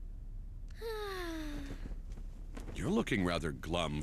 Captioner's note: sigh